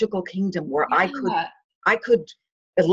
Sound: mumbling

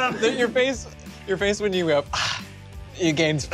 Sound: sigh

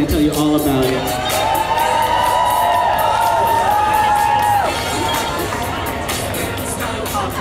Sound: cheering

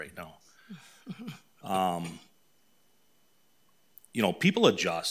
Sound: people chuckling

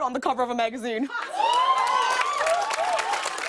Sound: cheers and applause

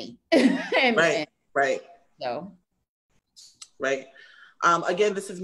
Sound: laughs

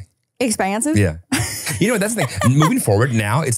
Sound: laughing

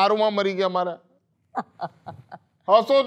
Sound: laughs

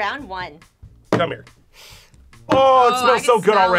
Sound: sniffs

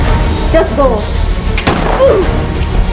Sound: bang

